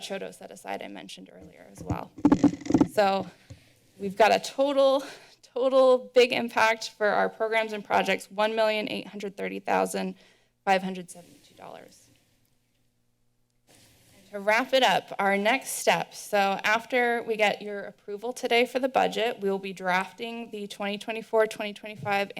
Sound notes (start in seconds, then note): 12.3 silence; 13.7 rustling sound